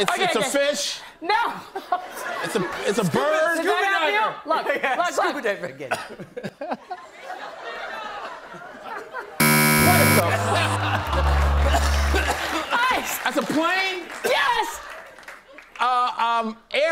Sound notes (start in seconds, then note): 5.8 laughter; 9.4 buzzer; 9.7 laughter